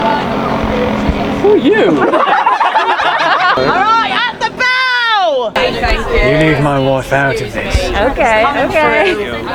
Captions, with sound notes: Who are you? (audience laughing) - All right, at the bow! - You leave my wife out of this. - Okay, okay.